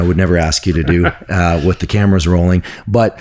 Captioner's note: laughing